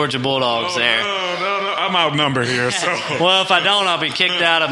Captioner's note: laughs